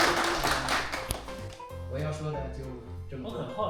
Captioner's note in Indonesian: tepuk tangan